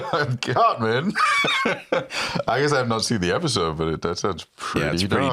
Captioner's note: laughs